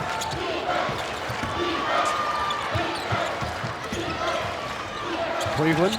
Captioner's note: crowd